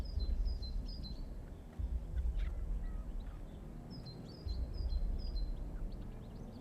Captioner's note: birds chirping; gentle tense music